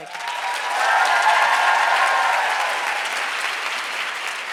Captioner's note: audience cheers